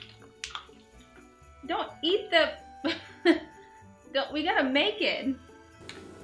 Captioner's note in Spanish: risas